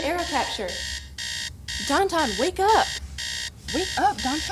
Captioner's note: clock alarm